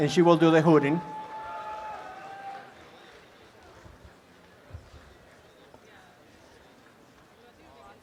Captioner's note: audience applause